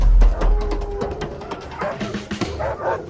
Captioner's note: wolf growling